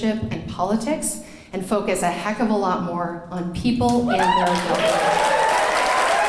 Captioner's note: cheering and clapping